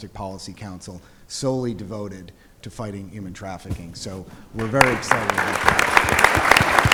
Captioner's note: applause